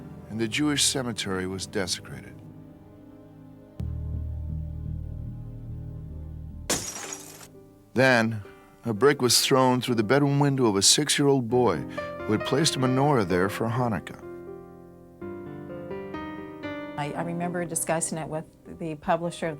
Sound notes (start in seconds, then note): 6.7 glass breaking